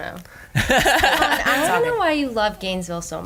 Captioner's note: laughs